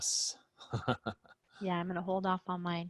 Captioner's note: laughs